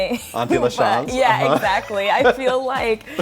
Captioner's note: laughs